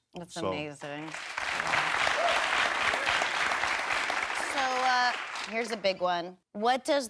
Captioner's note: audience applauds